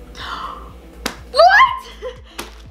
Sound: gasp

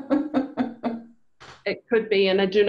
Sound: laughs

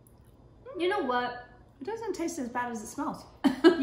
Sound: laughs

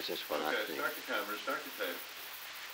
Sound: production chatter

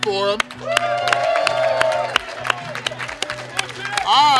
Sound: cheering & Clapping

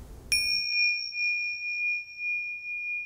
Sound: bell rings

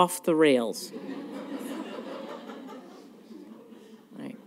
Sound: laughter

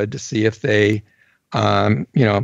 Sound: none

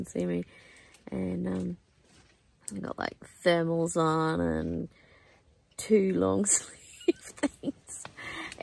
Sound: continues laughing

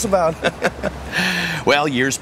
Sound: laughing

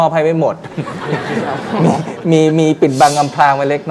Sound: laughing sound

